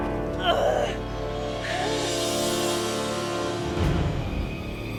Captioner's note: groans